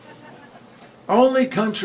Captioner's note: laughter